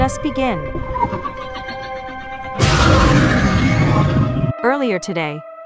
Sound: demogorgon roars

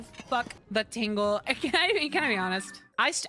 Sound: laughing

